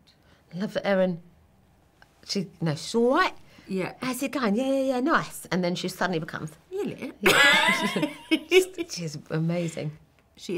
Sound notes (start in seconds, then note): 2.5 in cockney accent; 7.1 in posh British accent; 7.2 laughing